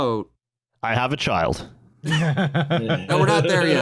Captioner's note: laughter